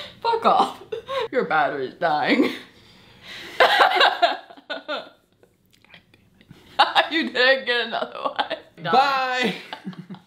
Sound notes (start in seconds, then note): 4.2 laughs; 6.1 whispers